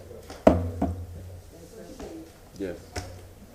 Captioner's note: sounding gavel